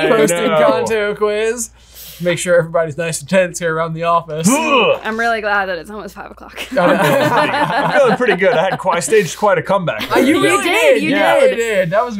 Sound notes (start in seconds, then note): 6.6 all laughing